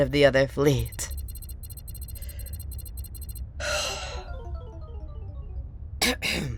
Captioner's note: beep beep beep boop boop…; clears throat